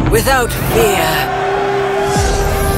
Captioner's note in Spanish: gritos